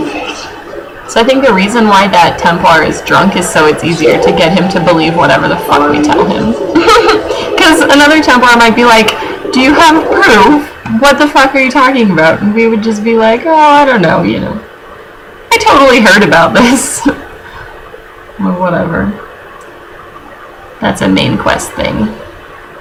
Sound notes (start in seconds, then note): 6.5 laughs